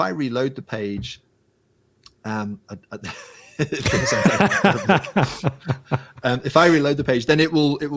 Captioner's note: laughing